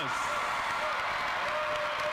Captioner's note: cheers and applause